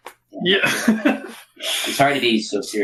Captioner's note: laughing